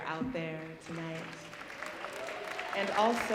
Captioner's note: audience applauding